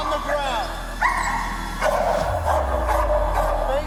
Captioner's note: dog barking